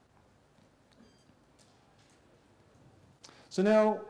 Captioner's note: pause